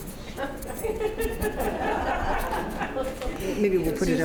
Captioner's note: laughter